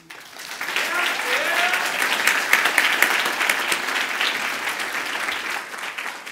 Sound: clapping

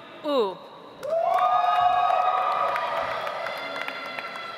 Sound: audience applauds

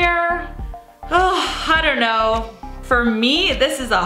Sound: sighs

